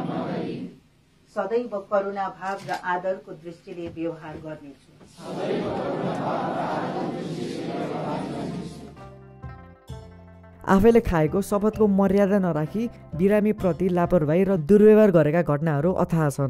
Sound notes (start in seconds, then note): 5.1 crowd repeating